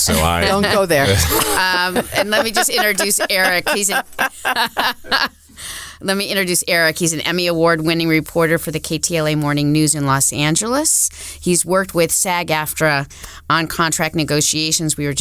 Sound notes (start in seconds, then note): 0.0 laughs; 4.5 laughing